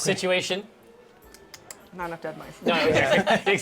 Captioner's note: smacks lips